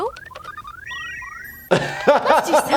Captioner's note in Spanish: sonidos de computadora; reír